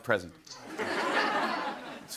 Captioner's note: laughter